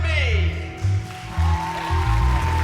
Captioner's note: cheering